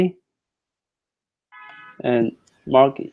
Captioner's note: car horn honking